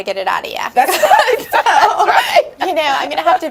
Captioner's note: laughing